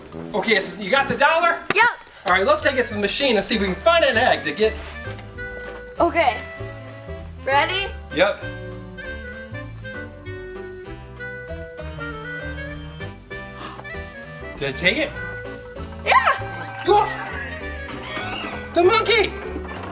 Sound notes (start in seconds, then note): 9.1 whimsical music; 11.9 machine whirrs